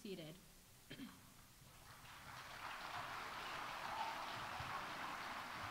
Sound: audience applauding

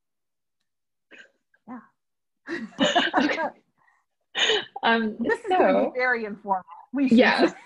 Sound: laughter

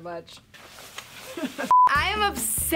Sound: coat rustling

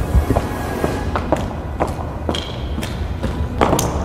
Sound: footsteps thudding; ominous music

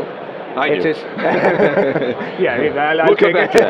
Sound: laughs

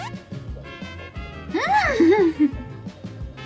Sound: exclaims

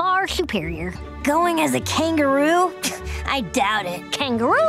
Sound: scoffs

